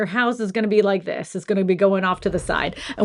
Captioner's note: thud noise